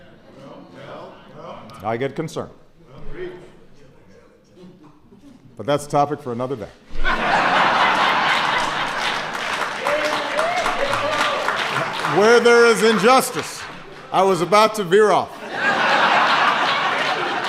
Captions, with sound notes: I get concerned. But that's a topic for another day. (Laughter and applause.) Where there is injustice -- I was about to veer off. (Laughter.) I'm pulling it back.